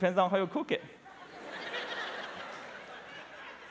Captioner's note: laughter